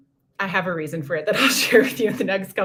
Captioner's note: laughter